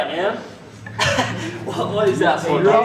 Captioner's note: laughs